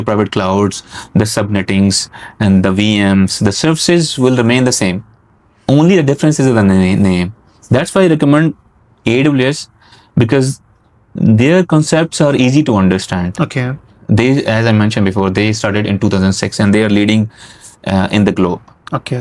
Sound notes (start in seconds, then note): 3.3 nasal sounds